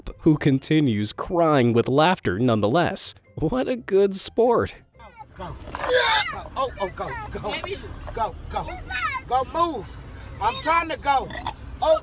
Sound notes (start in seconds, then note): 5.7 kid barfs